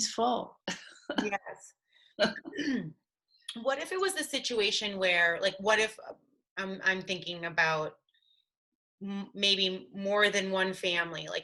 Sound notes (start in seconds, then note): 0.9 laughing; 2.2 throat clearing